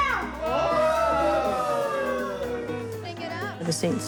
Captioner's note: all cheer